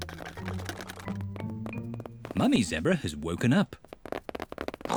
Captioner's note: pattering; oinks